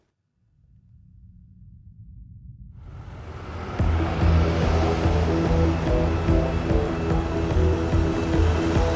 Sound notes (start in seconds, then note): 0.2 ominous music; 3.0 suspenseful music; 3.1 vehicles approaching